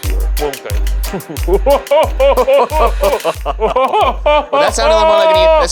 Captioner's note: laughing